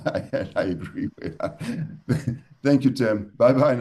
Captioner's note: laughter